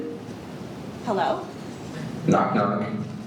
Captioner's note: iPhone default ringtone plays